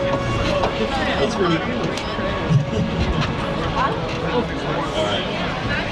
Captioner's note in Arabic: يضحك